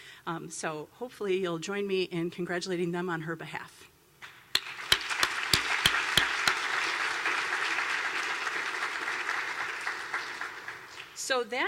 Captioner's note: applause